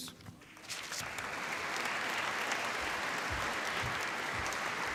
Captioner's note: applause